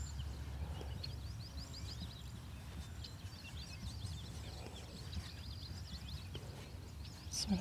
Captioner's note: birds chirping